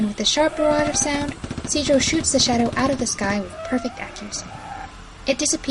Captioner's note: A semi-automatic firing